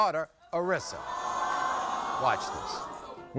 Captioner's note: audience gasping